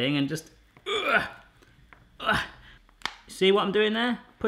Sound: groaning

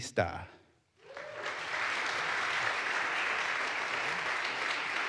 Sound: audience applauds

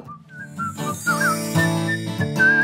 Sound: whistling; guitar music playing

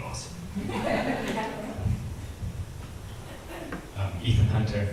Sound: audience laughs

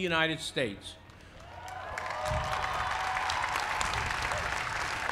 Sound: applause

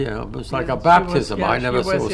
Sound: laughs

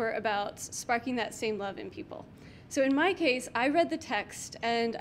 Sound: none

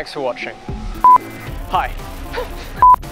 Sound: laughs

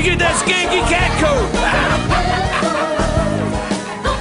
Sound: laughs

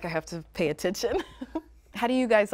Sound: giggles

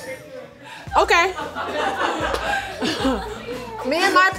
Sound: laughing

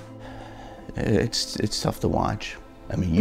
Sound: sighs

